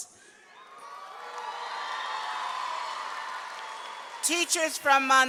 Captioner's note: seniors clapping and cheering